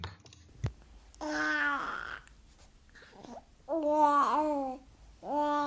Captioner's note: cooing